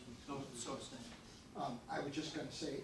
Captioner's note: faintly speaking